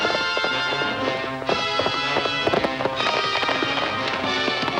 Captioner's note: suspenseful music; horses galloping